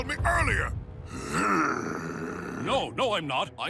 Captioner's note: growls